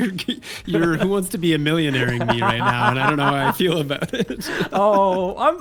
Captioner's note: laughs